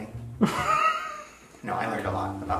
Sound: laughs

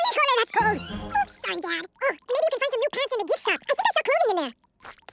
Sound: speaking fast forward

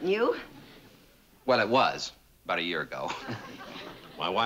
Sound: chuckle

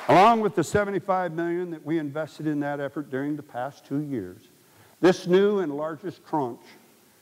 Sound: applause

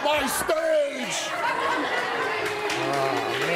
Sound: audience laughs

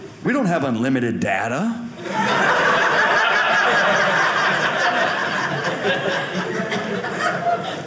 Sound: audience laughing

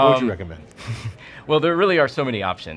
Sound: chuckling

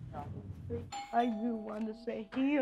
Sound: doorbell

